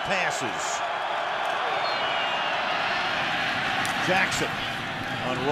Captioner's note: cheering